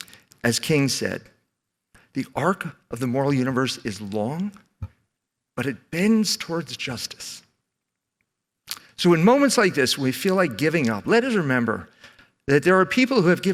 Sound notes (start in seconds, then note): none